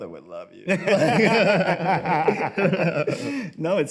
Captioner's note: both laugh